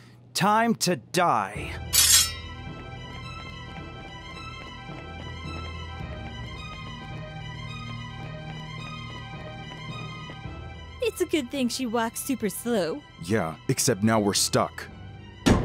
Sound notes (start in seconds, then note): 1.7 intense dramatic music; 2.0 blades screeching